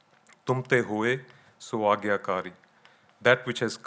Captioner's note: speaking in foreign language